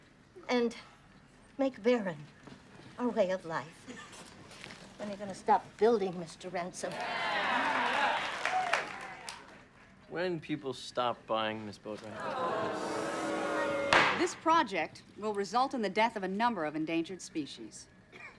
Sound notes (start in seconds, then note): 6.8 crowd cheering; 12.0 crowd booing; 12.3 gavel banging